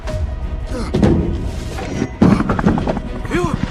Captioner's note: Hartley panting